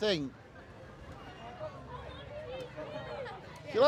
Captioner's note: people chattering